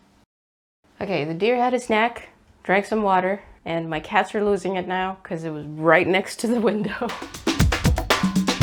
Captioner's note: laughs